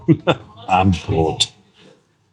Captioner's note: German